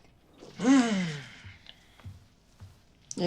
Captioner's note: clears throat